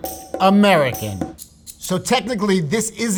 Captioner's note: upbeat music; rattling